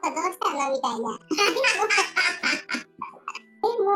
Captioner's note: laughs